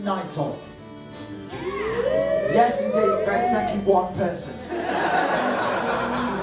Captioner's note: muted woos